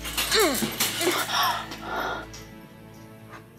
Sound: grunting

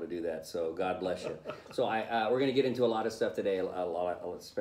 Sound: laughing

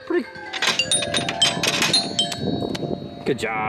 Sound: chimes ring

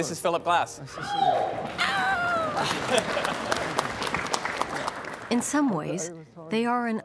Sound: cheering

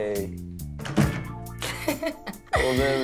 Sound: door closes; laughs

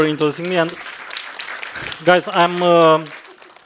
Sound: applause

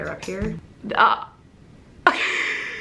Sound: stammers; laughs

